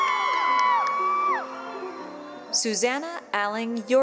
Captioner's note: cheering